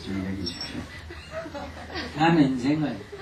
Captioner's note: audience laughter